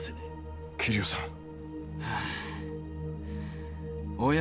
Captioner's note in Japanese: ため息